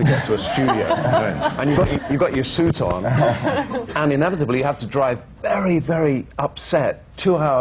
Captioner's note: laughter